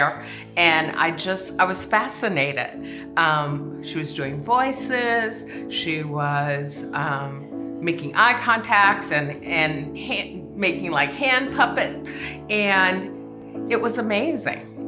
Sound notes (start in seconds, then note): none